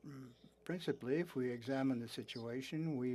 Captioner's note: speaking French